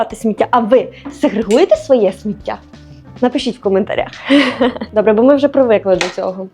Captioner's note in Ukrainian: сміх